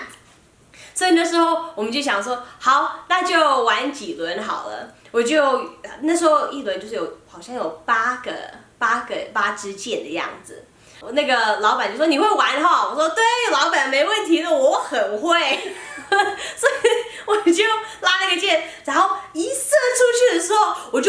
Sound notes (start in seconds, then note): 15.5 laughter